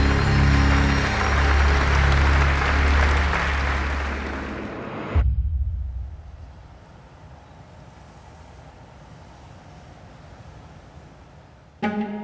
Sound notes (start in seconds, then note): 0.0 uplifting music continues; 0.0 audience applauds; 4.6 intense boom; 5.4 waves crashing